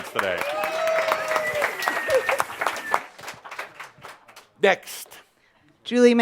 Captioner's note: audience applauds